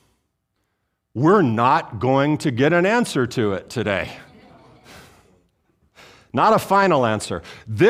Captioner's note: audience Laughing